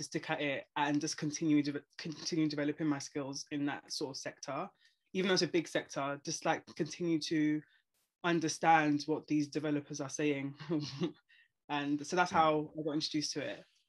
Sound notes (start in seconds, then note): 11.0 laughs